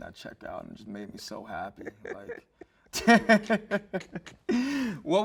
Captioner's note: laughs